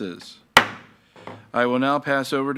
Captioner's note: gavel banging